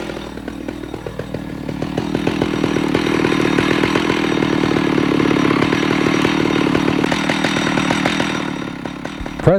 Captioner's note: tool whirring